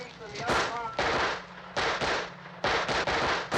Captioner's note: gun firing